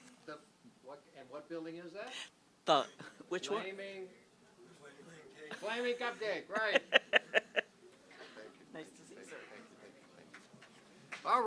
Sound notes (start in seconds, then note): 6.6 laughs